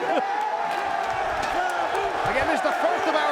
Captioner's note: Taz chuckling; spectators cheering